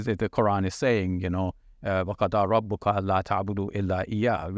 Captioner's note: speaking Arabic